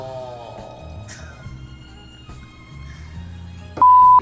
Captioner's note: laughs